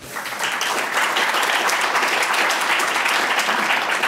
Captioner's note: audience clapping